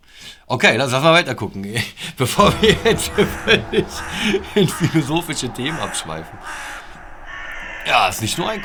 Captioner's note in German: Lachen